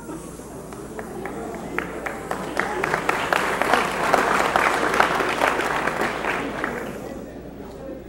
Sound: applause

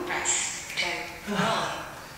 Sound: breath out

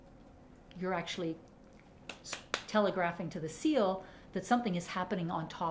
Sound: clapping

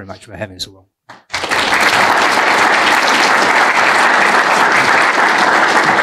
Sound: applause

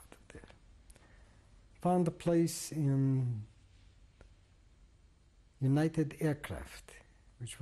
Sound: pauses for 3 seconds

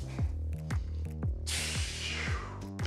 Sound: sighs

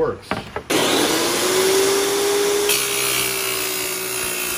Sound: tile saw revving

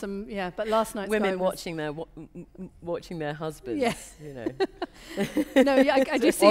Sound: laughter

